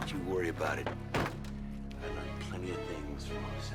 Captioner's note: car door closing